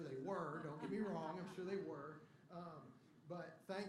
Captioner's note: laughter